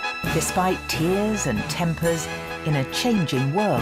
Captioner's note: voiceover